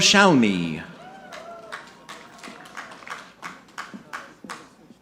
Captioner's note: audience clapping